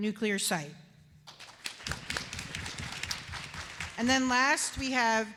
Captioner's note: applause